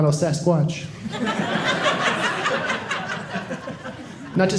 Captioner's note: audience laughing